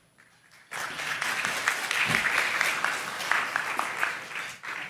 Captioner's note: applause